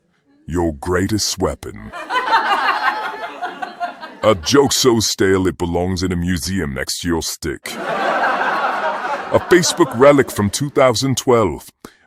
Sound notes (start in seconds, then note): 1.8 audience: laughing; 7.6 audience: laughing